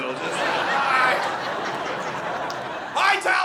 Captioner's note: audience laughing